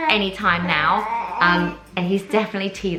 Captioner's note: baby groans